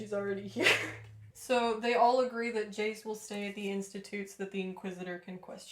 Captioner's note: laughter